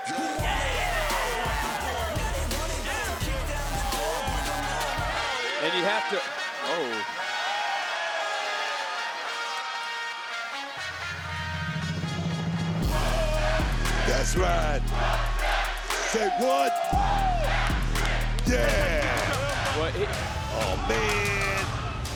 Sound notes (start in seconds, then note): 5.1 horns blaring; 7.4 horns blaring; 19.7 uptempo music